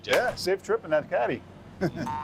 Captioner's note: laughter